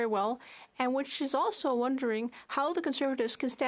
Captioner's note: speaking French